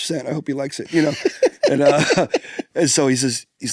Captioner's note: pair laughs